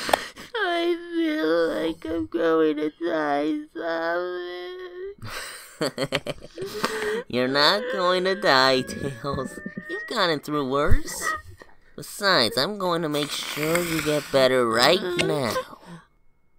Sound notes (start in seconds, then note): 5.9 chuckles